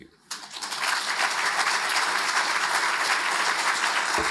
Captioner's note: audience applauds